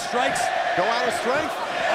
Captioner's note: crowd cheering